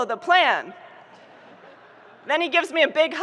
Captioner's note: audience laughing